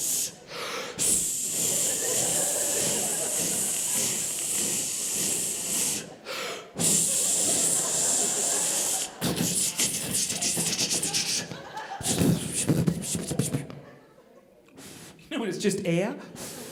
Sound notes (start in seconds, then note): 9.3 imitates spray-can sputtering